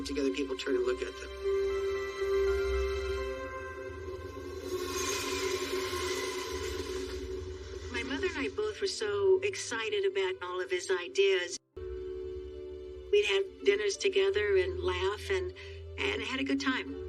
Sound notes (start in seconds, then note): 1.3 gentle music; 3.7 train rumbling